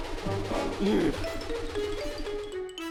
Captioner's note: sighs